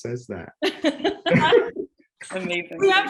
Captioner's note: laughing